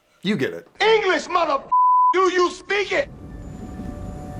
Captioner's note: beeper